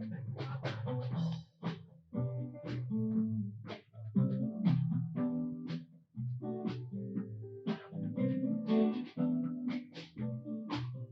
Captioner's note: applause